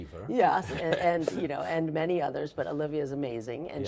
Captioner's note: laughs